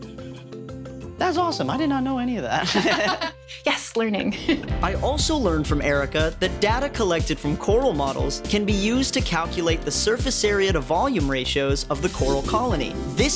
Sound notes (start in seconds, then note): 2.6 laughing